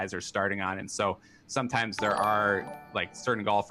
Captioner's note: chiming